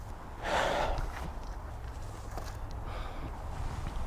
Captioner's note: exhales